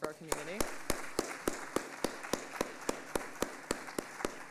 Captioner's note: audience applauding